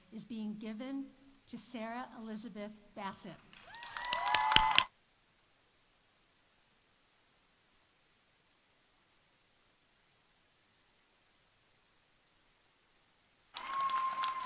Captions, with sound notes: is being given to Sarah Elisabeth Bassett. (audience applauding)